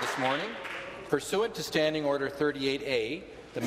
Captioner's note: applause